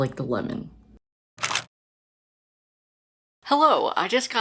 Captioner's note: camera shutter